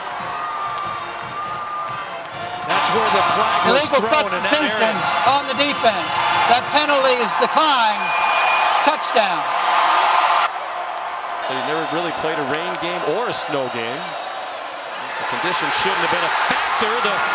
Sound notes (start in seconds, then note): 9.6 crowd cheering